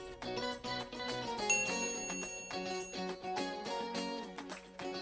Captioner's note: mouse clicking; bell dinging